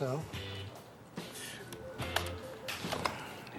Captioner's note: scoffs